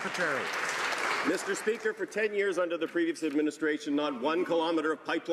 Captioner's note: applause